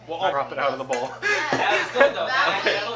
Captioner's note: laughs